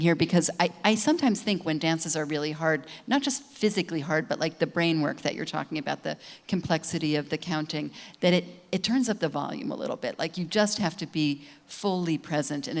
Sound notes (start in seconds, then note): none